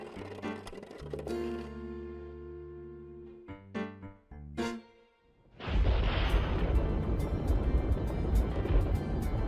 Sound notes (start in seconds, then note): 5.6 thunder